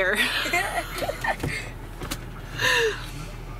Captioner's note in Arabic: ضحك